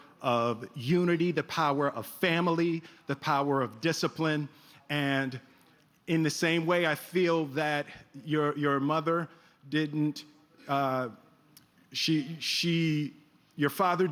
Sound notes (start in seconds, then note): none